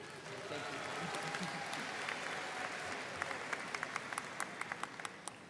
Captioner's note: students applauding